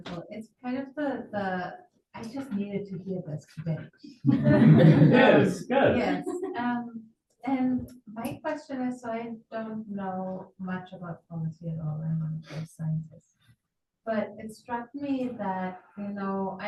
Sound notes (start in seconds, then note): 4.2 audience laughing